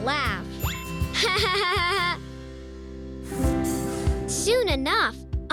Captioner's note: laughing